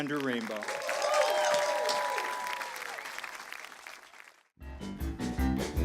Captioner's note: applause